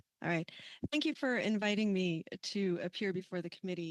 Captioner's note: speaking French